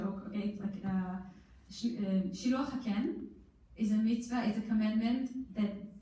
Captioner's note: in foreign language